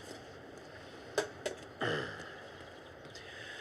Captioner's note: clears throat